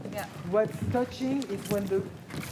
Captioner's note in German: Sie sprechen auf Englisch